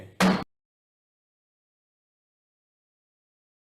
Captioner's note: gavel bangs